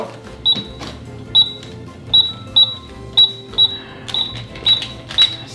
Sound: cash register beeping

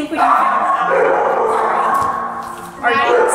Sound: dogs continue barking

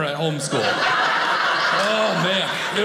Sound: audience laughing

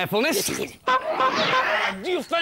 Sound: honk! Honk! Honk!

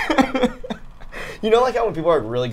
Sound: laughs

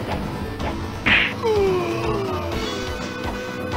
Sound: echo

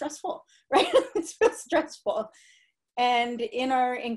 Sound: laughter

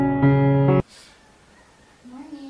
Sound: gasp

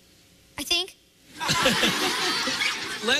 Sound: laughter

